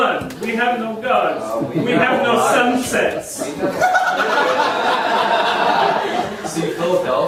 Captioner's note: audience laughing